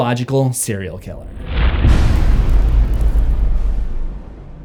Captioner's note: impact